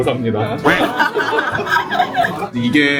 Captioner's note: laughter